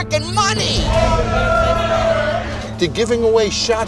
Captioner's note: cheers